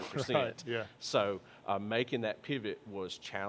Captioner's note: laughs